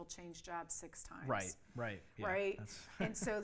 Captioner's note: laughs